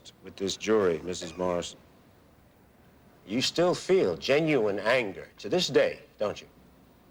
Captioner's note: none